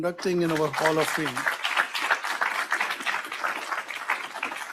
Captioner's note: audience applauds